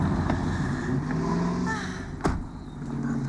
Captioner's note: sighs